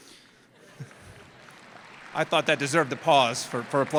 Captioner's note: applause